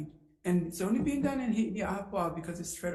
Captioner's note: speaking in foreign language